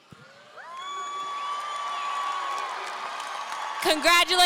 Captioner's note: audience cheering